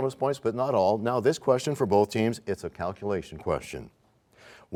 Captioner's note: none